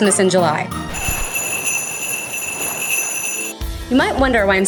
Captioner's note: bells jingling